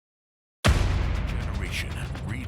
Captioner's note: bang